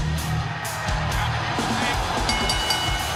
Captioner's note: bell ringing